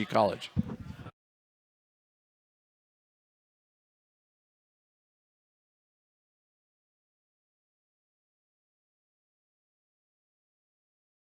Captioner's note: silence